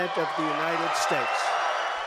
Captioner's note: cheering and applause